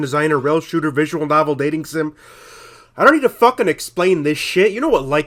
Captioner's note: audible inward breath